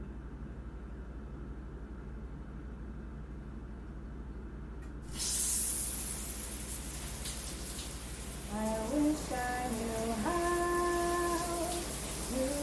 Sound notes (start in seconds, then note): 5.0 shower running